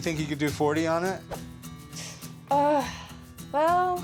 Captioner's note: winces